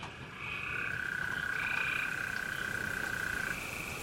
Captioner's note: rain pouring